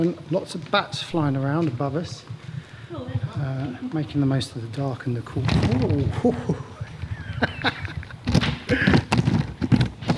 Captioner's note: laughs